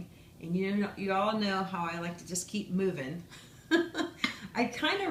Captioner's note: laughs